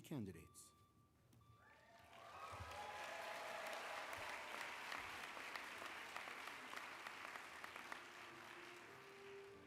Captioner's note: applause